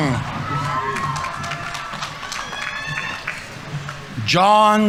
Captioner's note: audience applauding; audience members cheering